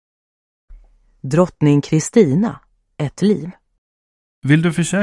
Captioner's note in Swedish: E-ljudbok spelar